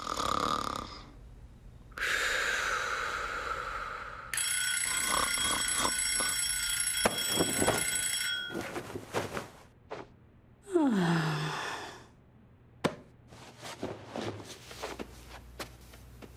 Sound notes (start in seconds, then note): 0.0 snoring; 4.4 bell rings